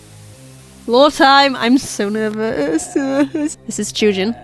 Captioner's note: laughs